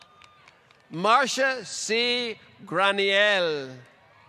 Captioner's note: applause